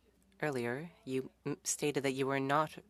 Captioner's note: speaking French